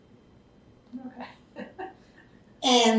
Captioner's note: laughs